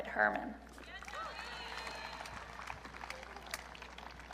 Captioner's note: audience cheering